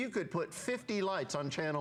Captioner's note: counting